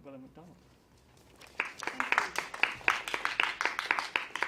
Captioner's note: claps